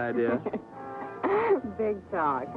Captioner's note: laughing